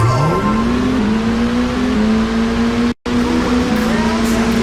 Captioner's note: car engines revving